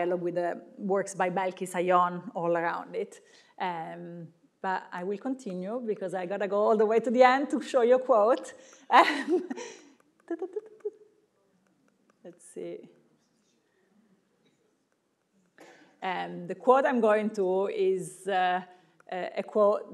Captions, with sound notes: with the works by Belkis Ayón all around it. But I will continue because I gotta go all the way to the end to show you a quote. (laughs) (humming) Let's see. And the quote is going to is a quote